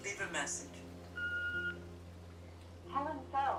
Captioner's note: machine beeping